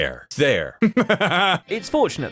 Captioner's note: laughs